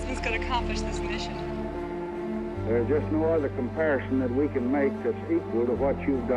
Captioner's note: on phone